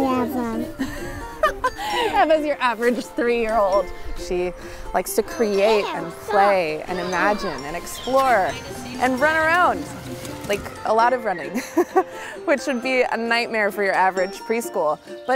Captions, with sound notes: - Hi everyone. - (laughs) Eva's your average three-year-old. She likes to create and play and imagine and explore and run around, like a lot of running. (laughs) Which would be a nightmare for your average preschool,